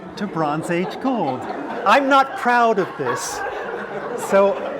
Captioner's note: laugh